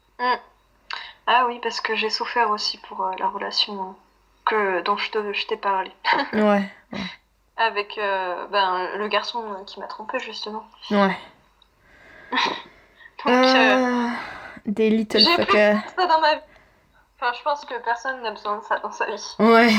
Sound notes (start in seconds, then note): 13.3 laughs